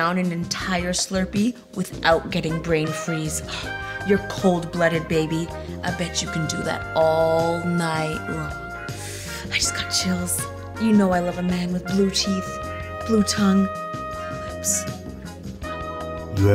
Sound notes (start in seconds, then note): 8.9 inhales sharply